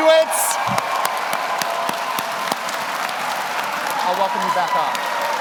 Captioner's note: audience applauds; audience cheers